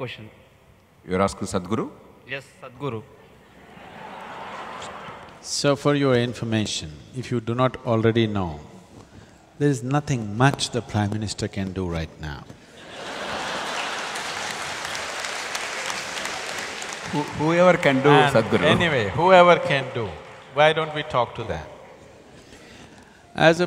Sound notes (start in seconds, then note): 3.5 laughter; 13.4 laughter/Applause